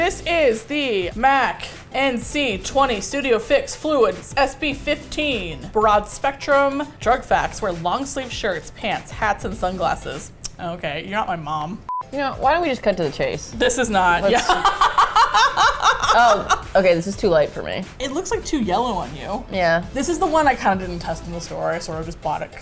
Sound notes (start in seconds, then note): 10.3 tsk; 14.2 laughs